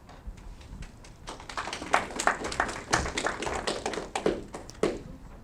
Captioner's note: audience clapping